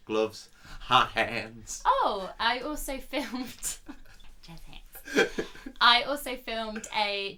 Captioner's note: laughs